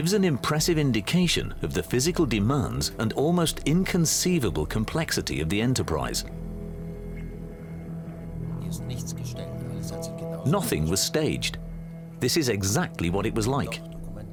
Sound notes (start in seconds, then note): 8.5 speaking German